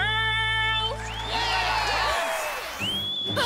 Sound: crowd cheering

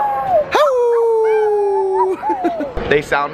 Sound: howl; howling together

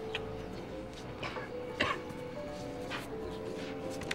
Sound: coughs

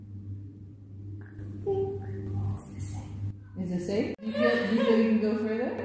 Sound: whispers

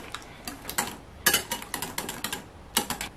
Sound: whisking

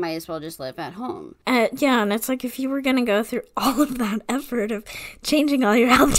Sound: laughing

